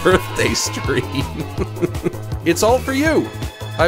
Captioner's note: laughs